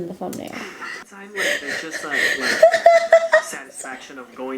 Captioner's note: laughing